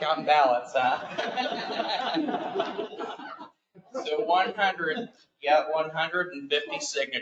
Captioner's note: laughter